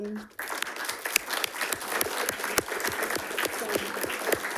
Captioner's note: attendees clapping